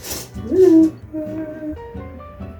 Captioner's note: happy noises